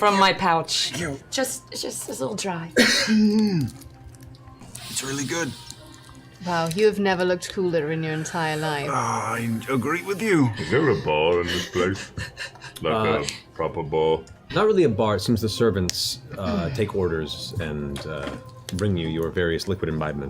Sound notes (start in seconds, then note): 2.7 coughs